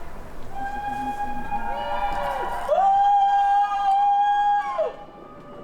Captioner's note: cheers